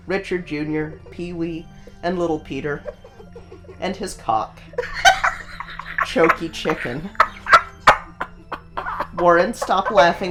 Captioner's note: bursts out laughing again